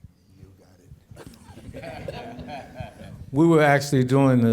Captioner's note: chuckling